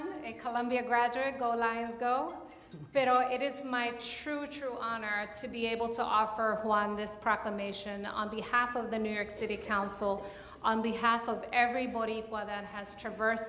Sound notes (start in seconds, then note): 5.7 speaks in Spanish